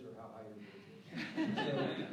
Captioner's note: laughter